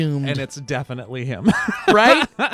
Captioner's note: laughs